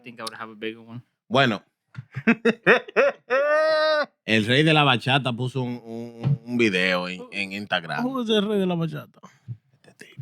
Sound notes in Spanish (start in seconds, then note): 2.0 Riendo; 2.1 Hablando en idioma extranjero